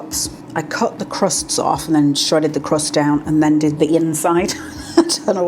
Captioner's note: laugh